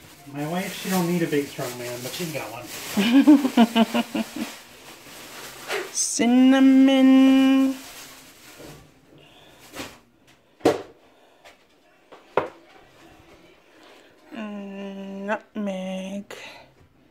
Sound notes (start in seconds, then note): 2.9 laughing